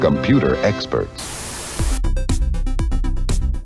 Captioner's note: static; tempo music